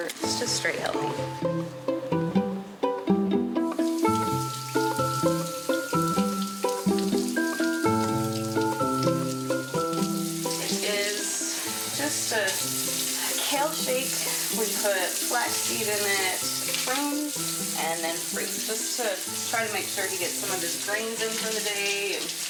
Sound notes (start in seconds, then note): 2.8 placid music; 4.0 water rushing